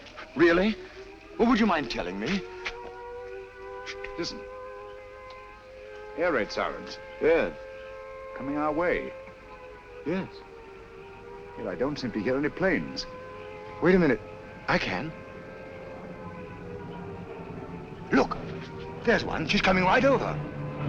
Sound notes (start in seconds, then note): 2.8 air raid sirens